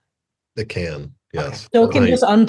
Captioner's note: laughs